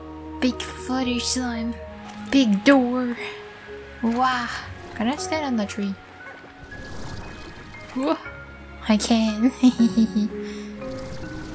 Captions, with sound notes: Big flutter slime! Big door! Wah! Can I stand on the tree? Wah! I can! (laughter)